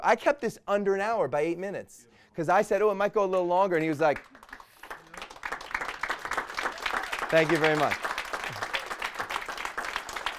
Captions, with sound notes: I kept this under an hour by eight minutes! 'Cause I said, "Oh it might go a little longer," and he was like-- (applause) Thank you very much.